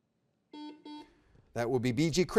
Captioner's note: buzzer beeps